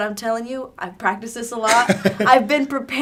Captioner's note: laughing